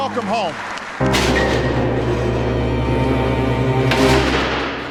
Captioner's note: bars clanking